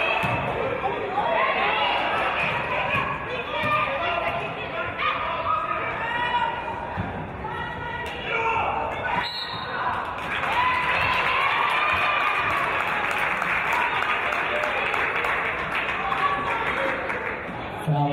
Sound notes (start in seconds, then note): 9.2 referee's whistle; 11.4 cheers and applause